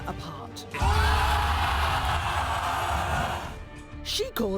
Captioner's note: crowd cheering